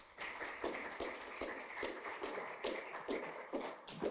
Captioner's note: audience applauding